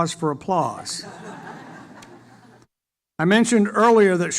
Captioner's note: audience laughter